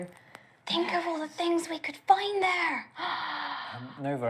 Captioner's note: gasp